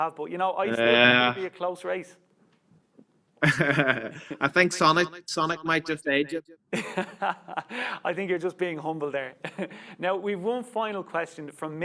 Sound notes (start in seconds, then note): 3.4 both chuckles; 6.7 laughs